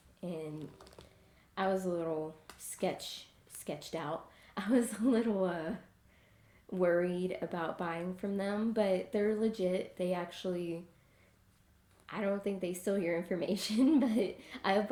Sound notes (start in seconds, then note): 4.6 laughing